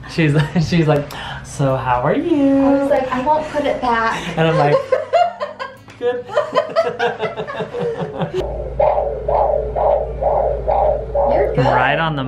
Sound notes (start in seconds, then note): 6.0 laughs